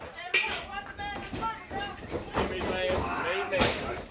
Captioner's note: crowd chatter